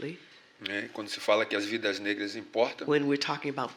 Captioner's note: speaking portuguese